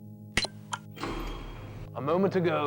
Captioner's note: button beeps; dumbwaiter clanks